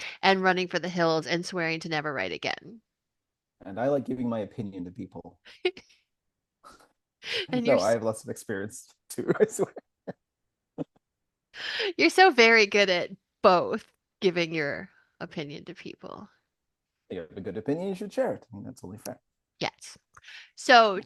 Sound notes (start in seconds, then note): 7.8 laughs; 9.2 laughs